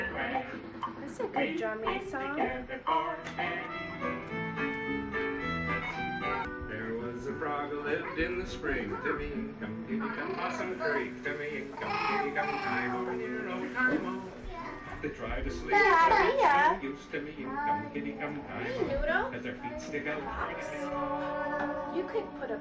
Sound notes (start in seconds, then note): 11.7 coos and verbalizes happily